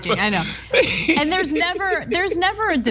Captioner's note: laugh